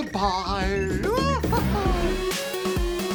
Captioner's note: laughs